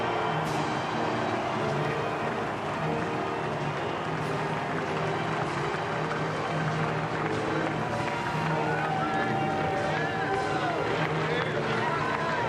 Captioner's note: cheering